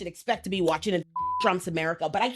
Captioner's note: beep